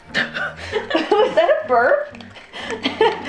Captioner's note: laughs